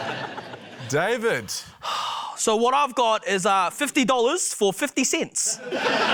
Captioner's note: laughter; exhales; laughter